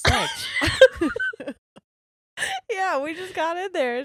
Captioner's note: laughing